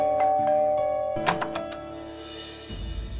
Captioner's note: doorbell rings; door opens